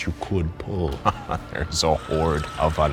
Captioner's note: laughing